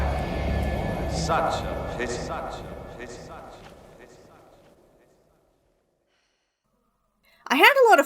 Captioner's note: echoing